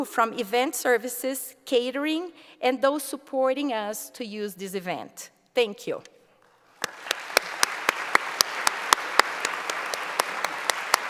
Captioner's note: applause